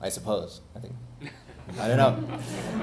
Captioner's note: audience laughing